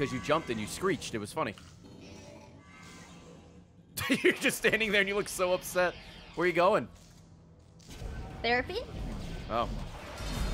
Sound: laughs

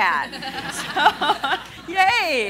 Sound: laughing

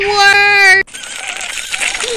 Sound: enemy sounds; gasps

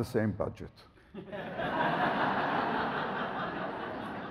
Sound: audience laughs

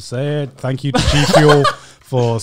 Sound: laughing

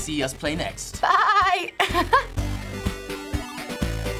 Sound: laughs

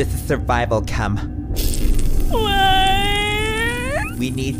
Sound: wailing; sizzling

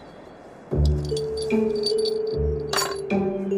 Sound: sounds of bells

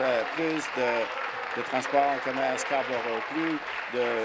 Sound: applause

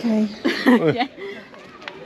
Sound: laughing

